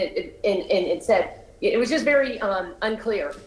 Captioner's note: ~distortion~